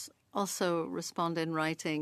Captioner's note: speaking French